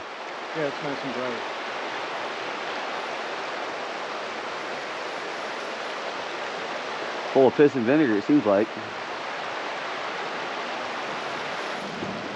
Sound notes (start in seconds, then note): 5.5 water flowing; 10.7 water flowing